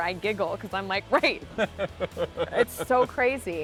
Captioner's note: laughing